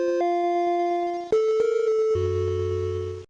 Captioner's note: phone ringing